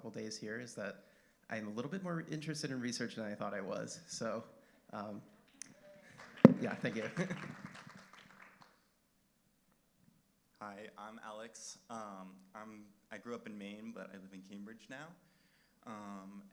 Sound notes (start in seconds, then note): 7.3 applause